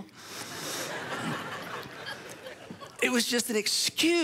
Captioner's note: audience laughs